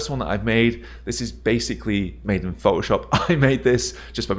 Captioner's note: chuckles